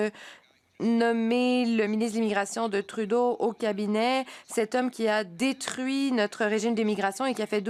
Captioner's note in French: voix de l'interprète